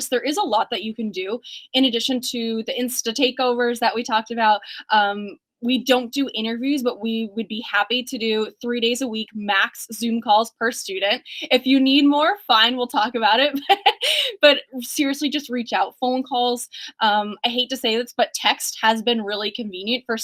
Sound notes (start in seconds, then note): 13.5 laughs